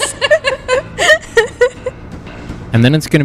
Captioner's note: laughs